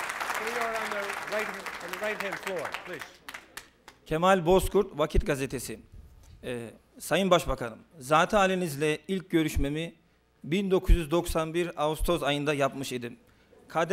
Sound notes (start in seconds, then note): 6.5 non-english speech